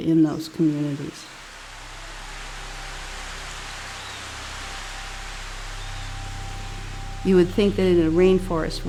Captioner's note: raining sound